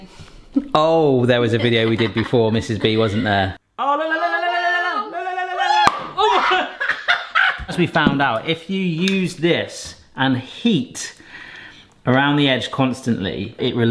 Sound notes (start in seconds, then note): 5.8 cork popping; 6.1 both laughing